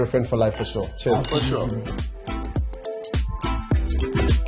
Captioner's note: glasses clink